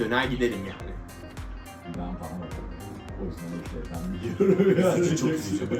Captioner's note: laughing